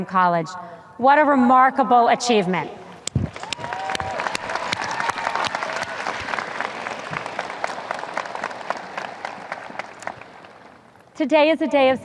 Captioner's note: audience cheers